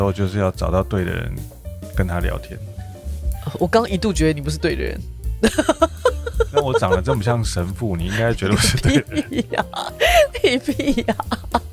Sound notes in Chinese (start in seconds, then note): 5.4 哈哈哈